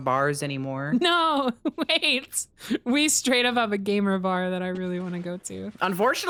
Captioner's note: laughs